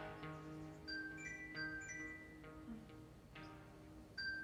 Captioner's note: alarm ringing